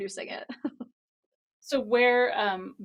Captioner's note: laughs